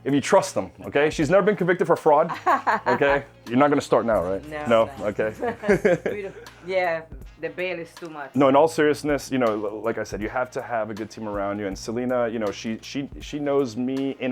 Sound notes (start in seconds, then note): 5.0 laughs